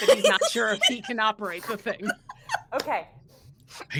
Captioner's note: laughing